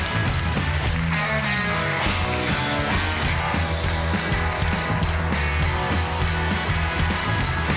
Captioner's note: applause; guitar music